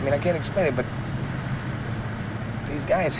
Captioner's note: none